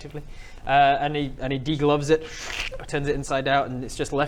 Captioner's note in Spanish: schhrrk